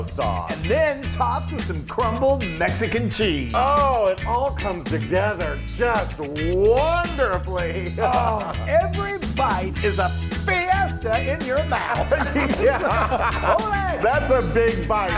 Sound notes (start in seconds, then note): 10.4 laugh